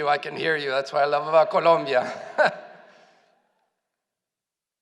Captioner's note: laughs